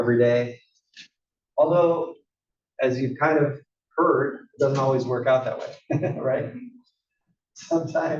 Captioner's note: laugh